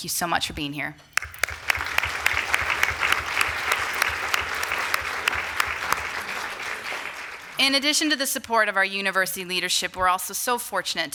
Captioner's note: applause